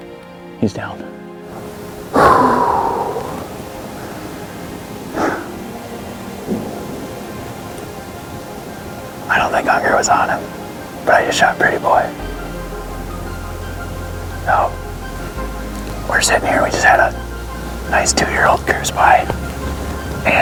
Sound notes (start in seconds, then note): 1.6 sighs